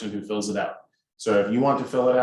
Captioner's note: none